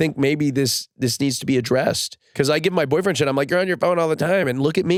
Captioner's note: none